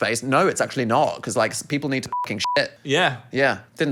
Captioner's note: beep